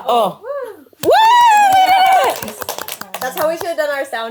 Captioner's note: cheering